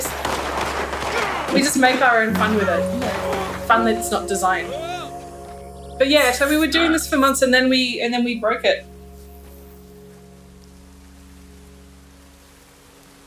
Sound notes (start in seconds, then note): 0.2 weapon firing; 4.5 man yelling; 10.4 rain falling